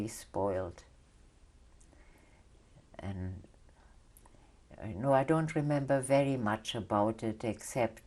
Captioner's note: pauses for 3 seconds